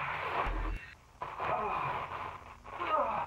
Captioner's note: crash; grunt